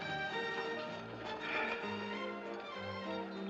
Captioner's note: Suspiros